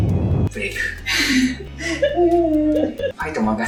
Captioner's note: crying